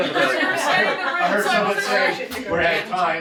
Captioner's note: laughs